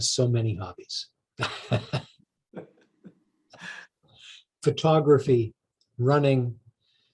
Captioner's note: sighs heavily; laughs